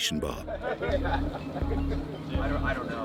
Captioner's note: soldiers laughing